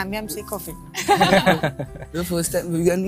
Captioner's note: laughter